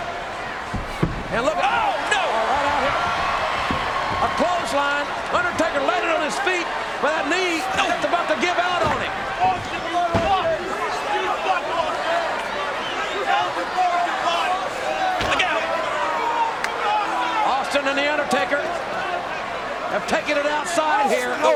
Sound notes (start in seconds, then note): 10.0 crowd chattering